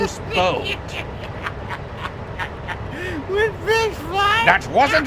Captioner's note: laughs